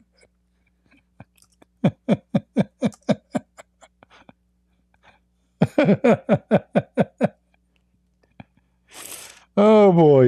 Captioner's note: Ketawa